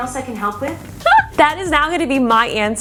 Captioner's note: laughs